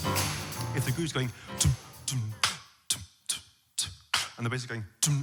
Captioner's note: beat boxing; beat boxing with bass notes